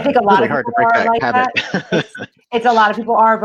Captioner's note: laughs